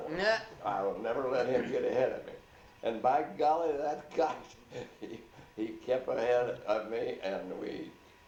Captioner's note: laughs; laughs